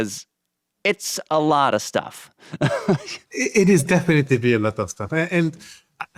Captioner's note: laughs